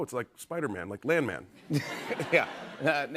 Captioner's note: laughter